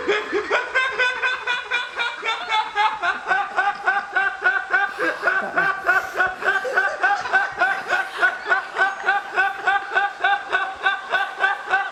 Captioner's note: only exhaling